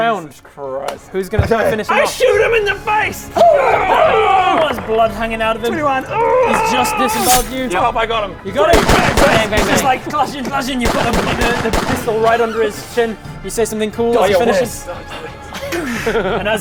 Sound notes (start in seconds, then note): 8.7 bang bang bang; 11.9 bang bang bang bang